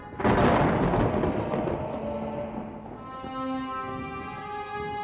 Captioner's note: ominous music; thunder crashing; shop bell rings